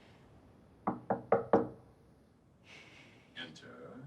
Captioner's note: knocking